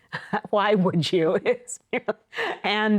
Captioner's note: laughs